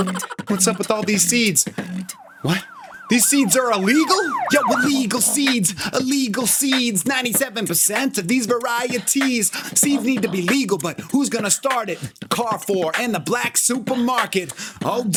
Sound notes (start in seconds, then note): 0.0 chipmunk laughing; 1.7 sirens wail